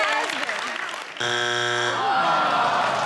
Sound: buzzer buzzes; audience groans

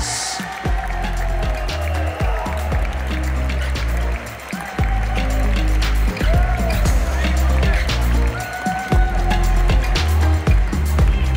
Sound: applause; ♫ Midtempo guitar music ♫

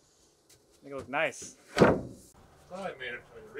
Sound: plank clunks

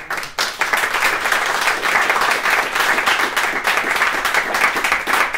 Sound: applause

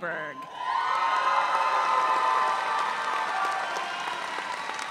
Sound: audience cheering

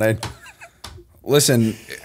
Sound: laughter

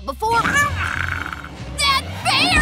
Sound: growling

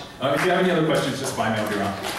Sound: applause

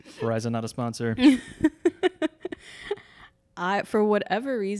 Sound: laughs

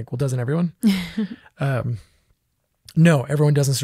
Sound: laughs

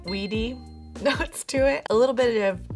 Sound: ding

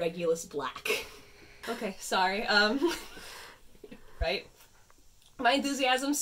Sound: laughs

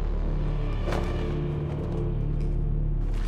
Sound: sheet flutters

